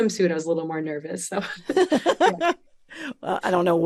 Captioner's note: both laugh